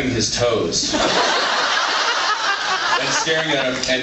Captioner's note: laughs